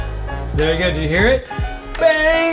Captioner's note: metal clanks